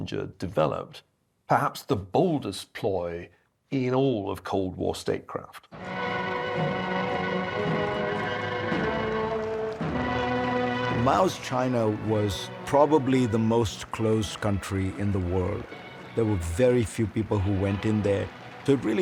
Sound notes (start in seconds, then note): 5.7 band playing; 9.7 applauding and cheering